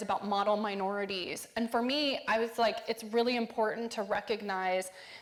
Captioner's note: none